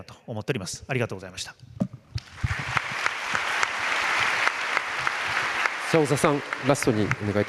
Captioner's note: 拍手